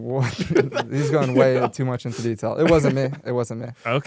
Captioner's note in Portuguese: risos